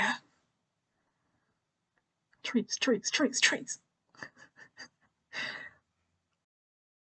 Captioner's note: laughs